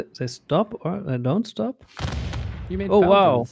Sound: volley of booming sounds

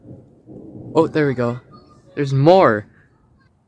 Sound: quiet thunder

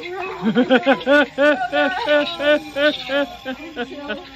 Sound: mischevious laugh

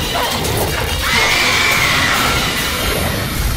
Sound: nails-on-chalkboard shriek

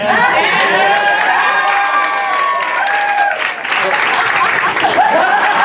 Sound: applause... Yeah!

